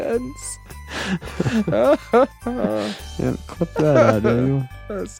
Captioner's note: laughing